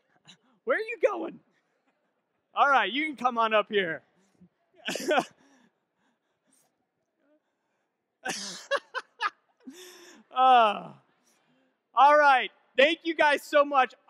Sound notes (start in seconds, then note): 6.0 laughs; 8.2 laughing